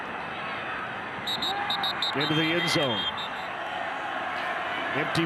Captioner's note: referee blows whistle